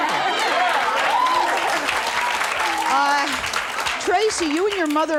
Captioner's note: audience applauds